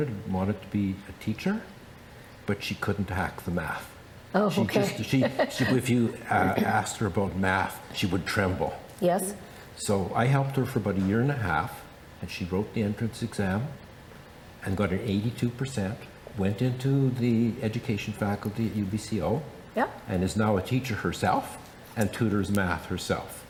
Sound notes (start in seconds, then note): 4.7 chuckles